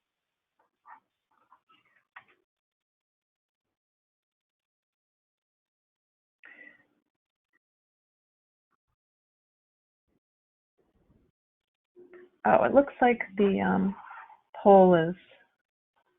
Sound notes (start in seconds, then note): 1.7 silence